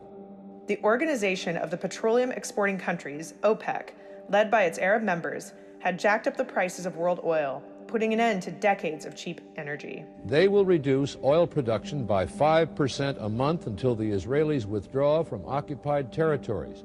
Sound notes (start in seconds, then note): 10.1 soundbite of archived recording